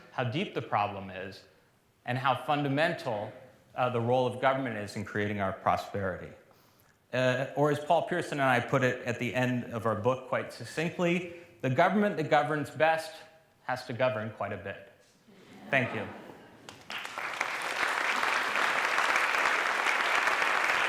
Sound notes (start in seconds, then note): 16.6 applause